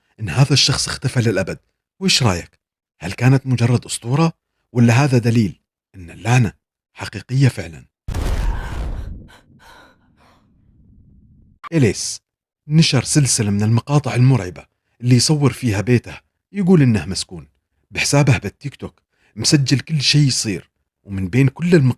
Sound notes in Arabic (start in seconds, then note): 8.4 تنهّد; 9.2 شهيق